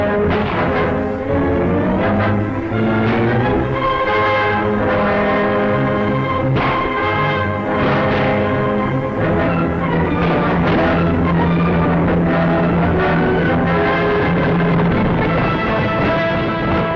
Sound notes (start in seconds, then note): 6.5 gunshots